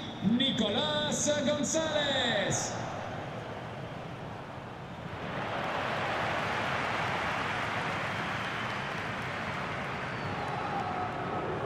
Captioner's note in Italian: Applauso